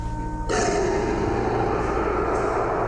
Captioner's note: roaring